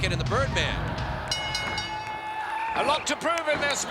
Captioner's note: bell rings